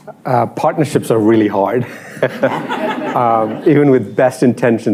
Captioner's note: laughter